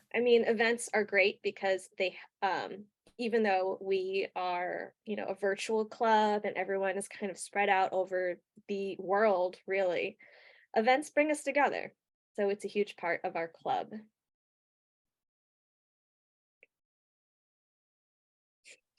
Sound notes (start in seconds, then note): 16.0 pause